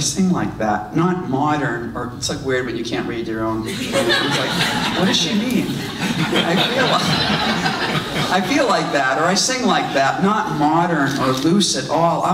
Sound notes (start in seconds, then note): 3.6 audience laughs